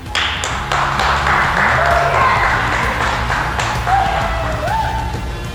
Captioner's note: all clapping and cheering